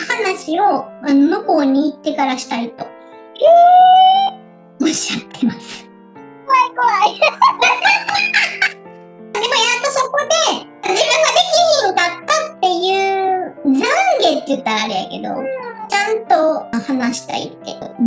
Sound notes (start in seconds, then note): 7.0 laughs